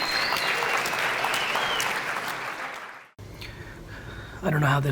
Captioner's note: audience applauds